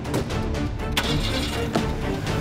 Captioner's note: engine starts